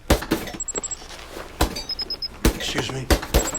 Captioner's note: fists pounding